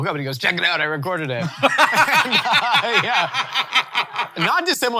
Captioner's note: laughing